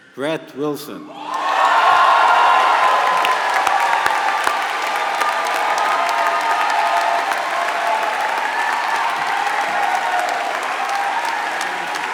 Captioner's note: applause